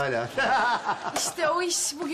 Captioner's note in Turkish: Gülme sesi